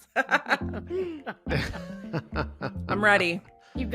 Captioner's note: chuckles